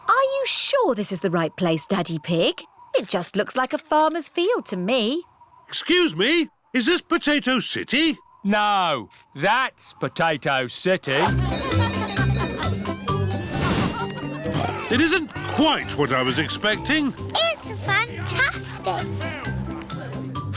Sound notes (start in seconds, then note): 12.0 cheerful jingling; 12.9 oinks